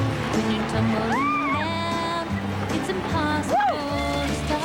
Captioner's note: shout of joy